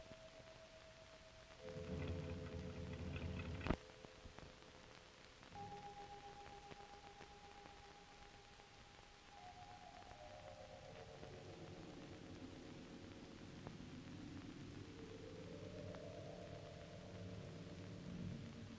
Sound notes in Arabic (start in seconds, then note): 1.8 هدير السيارة; 6.1 موسيقى غريبة